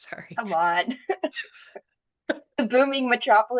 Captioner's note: chuckles